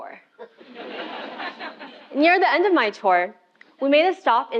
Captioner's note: laugh